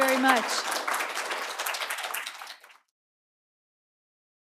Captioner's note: applause